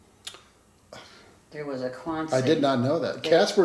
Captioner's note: sighs